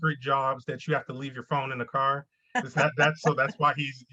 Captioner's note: laughs